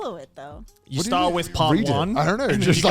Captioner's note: hosts laugh